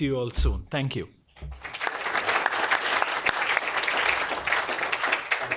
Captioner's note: applause